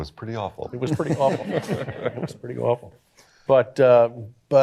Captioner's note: laughter